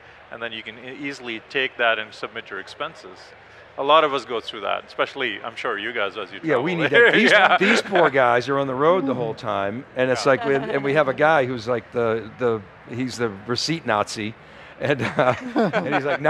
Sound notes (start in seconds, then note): 6.7 laughs; 14.8 panel members laugh